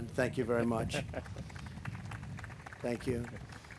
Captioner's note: applause